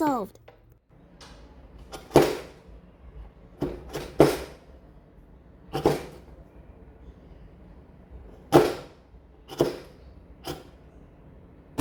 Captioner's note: chopping sounds